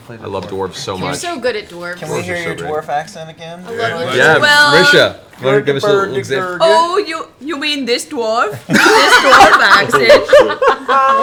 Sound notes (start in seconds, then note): 7.2 Swedish accent; 8.6 crack up; 9.8 same accent; 11.0 all laugh